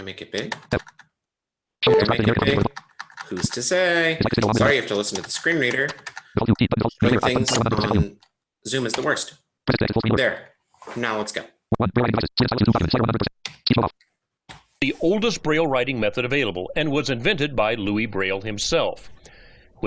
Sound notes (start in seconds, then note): 2.0 voice screeching rapidly; 6.4 voice screeching rapidly; 11.8 voice screeching rapidly